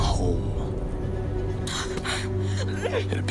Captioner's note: whimpering